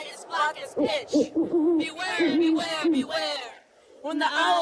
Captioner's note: owl hoots